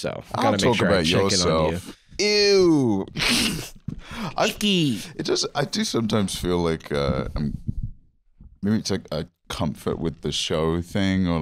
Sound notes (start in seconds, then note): 3.1 laughs